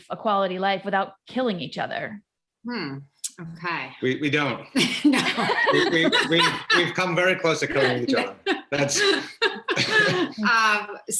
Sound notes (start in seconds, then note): 4.7 all laugh